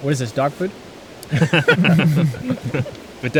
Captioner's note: all laugh